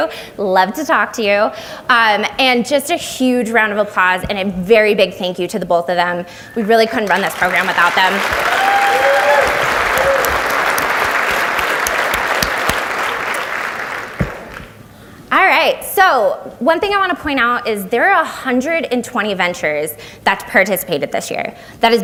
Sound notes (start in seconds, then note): 8.6 audience applauds